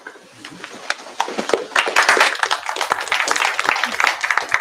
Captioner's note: applause